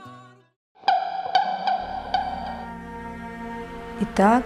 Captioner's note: sounds of virtual birds